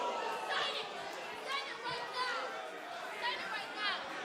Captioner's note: crowd cheering